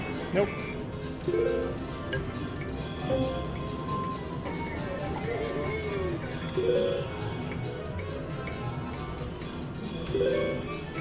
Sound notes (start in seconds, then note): 6.7 machine beeps